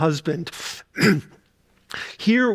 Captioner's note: clears throat